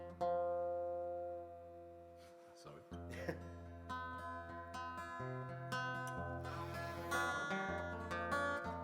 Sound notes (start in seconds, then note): 3.1 laughs